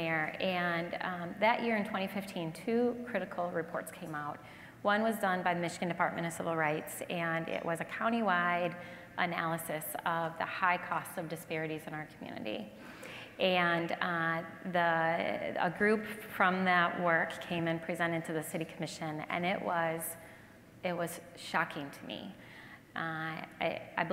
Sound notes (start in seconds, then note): none